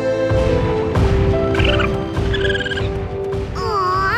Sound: squeaking

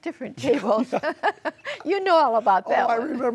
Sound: laughter

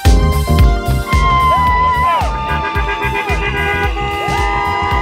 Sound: crowd cheering

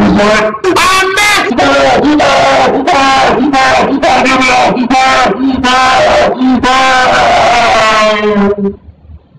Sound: screams on fire

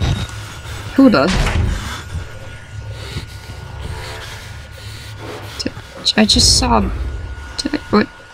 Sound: stutters

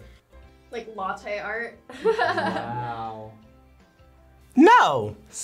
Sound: laughs

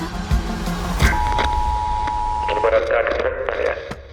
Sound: monotone beep over TV; man on TV

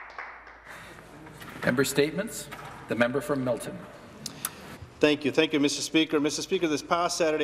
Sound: some Applause

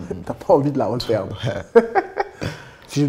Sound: laughs

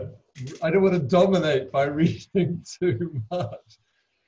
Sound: laughing

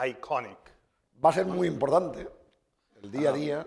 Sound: speaking spanish

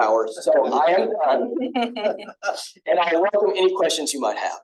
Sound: laughter

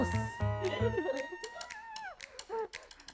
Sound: Red screams; playful music

